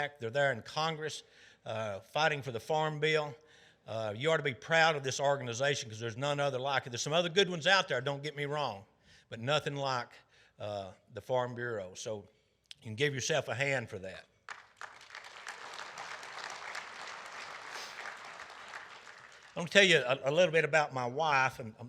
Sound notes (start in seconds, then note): 14.4 audience applauding